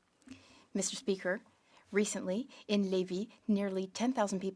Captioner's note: speaking French